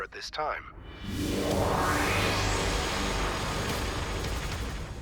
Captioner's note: warp whooshing